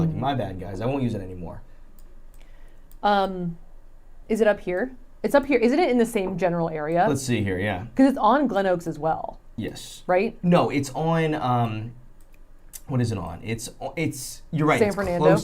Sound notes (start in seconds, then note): none